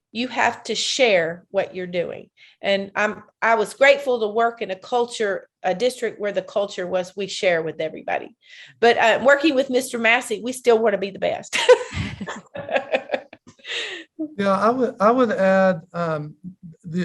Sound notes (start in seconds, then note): 11.6 all laughing